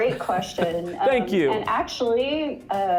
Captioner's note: chuckles